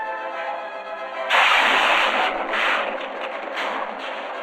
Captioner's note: explosion booming